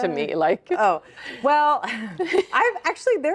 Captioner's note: chuckles